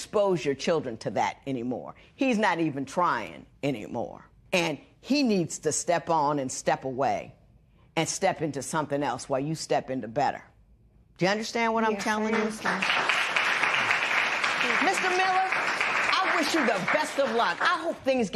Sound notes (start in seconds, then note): 14.6 applause